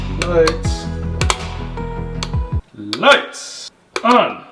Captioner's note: button clacking